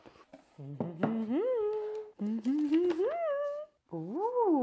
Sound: speaker humming

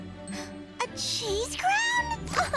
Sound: gasping

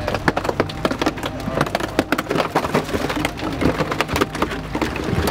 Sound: metal creaks

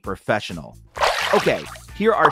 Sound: water splashing

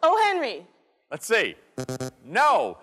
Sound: buzzing

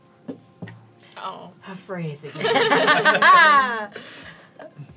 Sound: all laughing

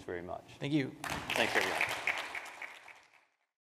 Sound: crowd clapping

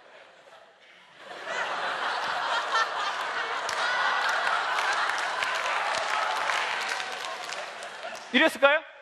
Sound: laugh

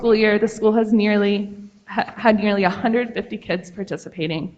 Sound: none

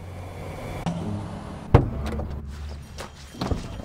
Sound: car buzzes; door thuds; shuffles

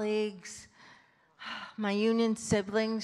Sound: sighs

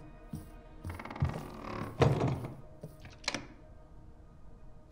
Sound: door creaks shut

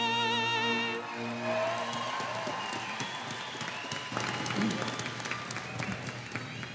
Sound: audience cheers; audience applauding

